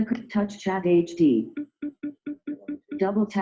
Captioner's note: beeping